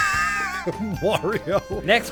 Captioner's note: wheeze